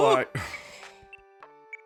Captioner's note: sighs